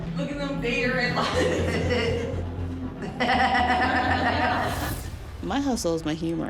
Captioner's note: laughter